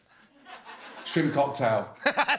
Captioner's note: normal voice; laughing